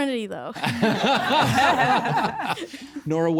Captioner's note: laughing